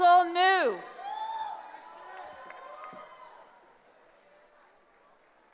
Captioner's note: cheering